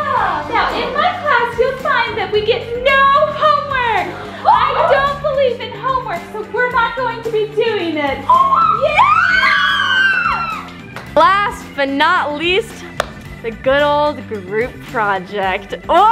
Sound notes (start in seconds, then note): 4.3 kids gasp; 8.2 kids cheering